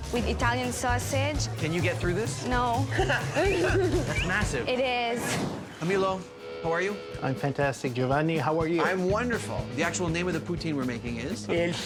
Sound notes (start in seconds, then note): 2.8 laughs